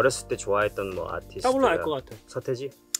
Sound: speaking in Korean

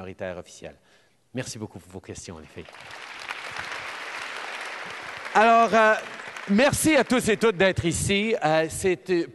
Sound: applause

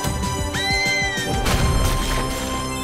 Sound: scream

